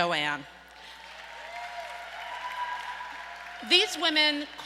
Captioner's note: audience applauds and cheers